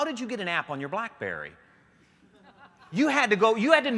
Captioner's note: laughter